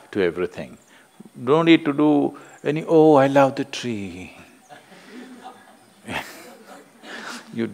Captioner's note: few laugh